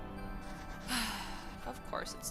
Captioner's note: sigh